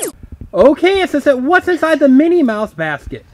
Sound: voiceover

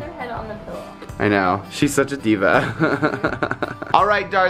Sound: laughs

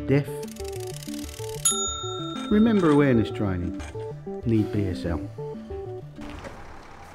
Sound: gauge dings

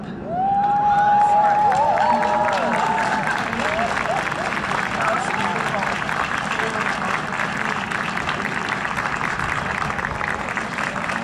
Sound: huge Cheers and Applause

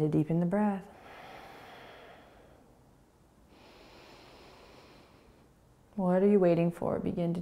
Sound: exhaling and inhaling

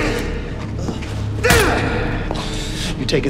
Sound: man groaning

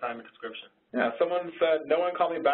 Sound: voiceover

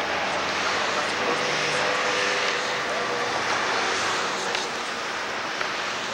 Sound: loud car sounds

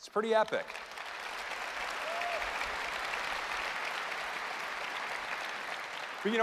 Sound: applause

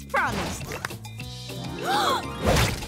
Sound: gasping

